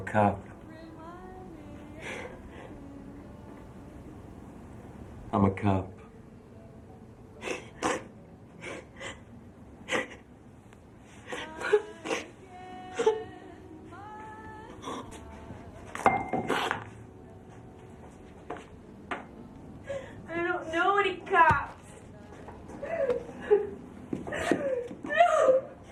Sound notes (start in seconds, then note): 2.4 gentle music; 7.8 Pat sobbing; 11.3 gentle music; 24.2 sobbing